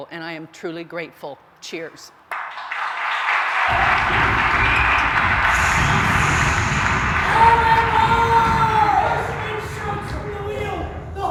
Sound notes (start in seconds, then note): 2.3 applause; 7.4 shouting